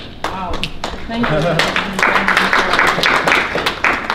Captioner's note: applause